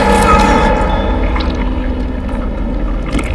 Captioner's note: groans